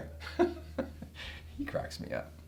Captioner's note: Lee chuckles